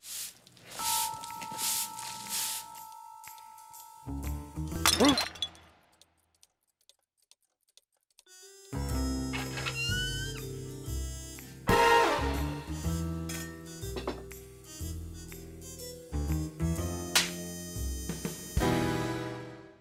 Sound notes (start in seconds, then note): 4.6 crashing noise; 16.9 smacking noise